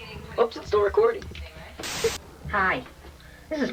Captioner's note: static hissing